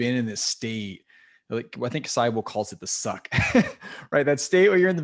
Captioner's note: laugh